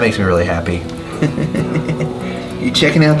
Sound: chuckles

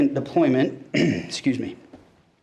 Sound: clears throat

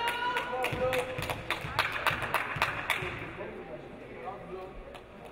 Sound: audience applauding

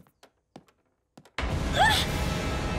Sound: gasps

